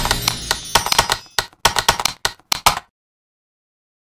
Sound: typing

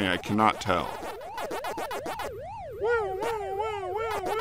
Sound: more pac-man sounds

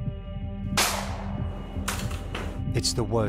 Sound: gunshot

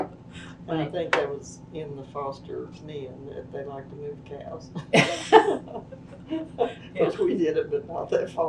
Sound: laughter

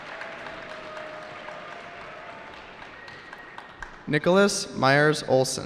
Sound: cheering

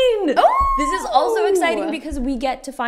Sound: shrieking

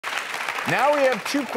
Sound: applause

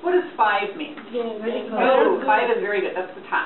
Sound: voiceover

